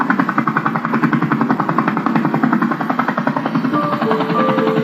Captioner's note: engine rumbling; upbeat music